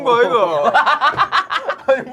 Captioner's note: laughing